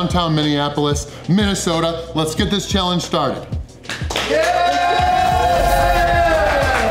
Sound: cheering

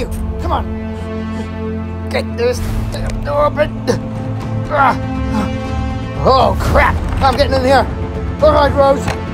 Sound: struggle sounds

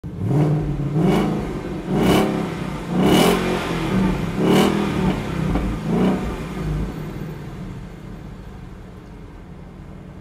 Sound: carro acelerando

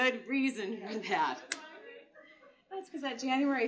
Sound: laughter

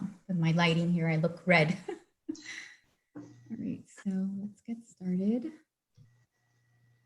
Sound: laughter

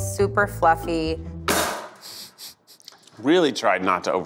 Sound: cake slamming on table

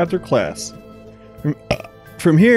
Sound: belches

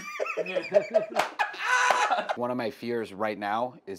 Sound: laughs

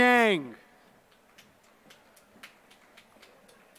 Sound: applause

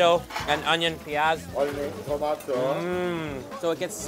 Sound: delighted hum; speaking foreign language

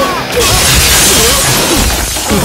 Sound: glass shatters

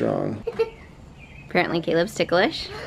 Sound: giggling

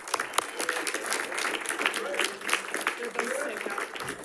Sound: audience applauding

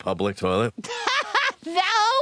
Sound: Louise laughs

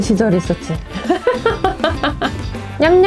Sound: laugh

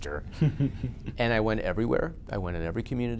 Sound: laughs

